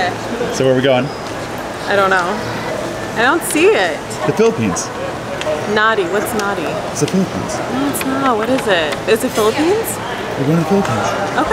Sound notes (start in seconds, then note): 9.1 paper rustling